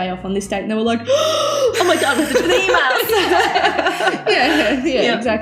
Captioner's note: gasps